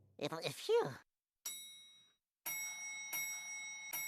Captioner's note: elevator bell dinging